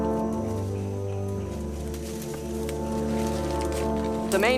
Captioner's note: rustling